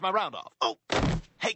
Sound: tumbles

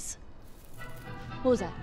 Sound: rustling in the trees

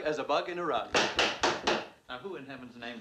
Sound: knocking

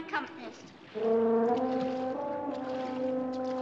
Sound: horn blast

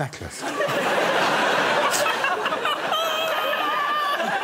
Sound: laughter

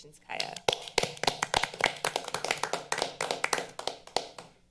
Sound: all applauding

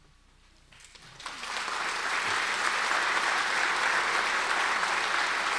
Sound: audience applause

